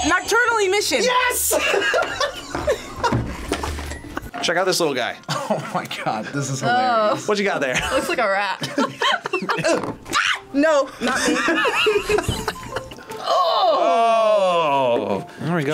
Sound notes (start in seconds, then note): 0.2 buzzer rings; 1.5 laughs; 7.6 group laughs; 10.1 screams; 11.0 both laugh